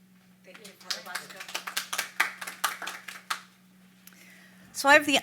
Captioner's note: audience applauding